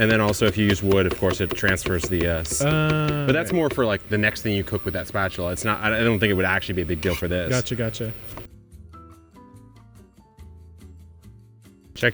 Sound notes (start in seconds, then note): 2.9 knife tapping; 8.5 mellow music